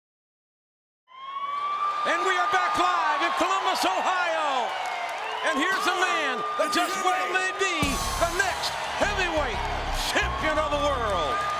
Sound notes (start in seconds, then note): 1.1 siren screeching